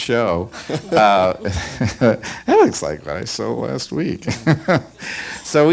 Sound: laughs

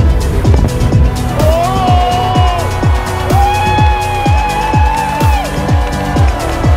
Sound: crowd cheering

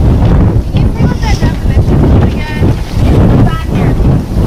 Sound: voiceover

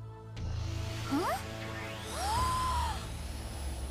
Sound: gasping

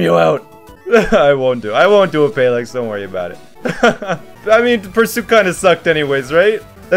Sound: laughs

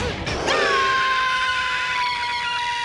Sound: screaming

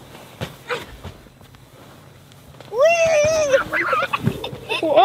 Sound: yelling and laughing

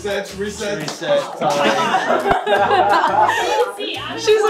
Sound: laughing

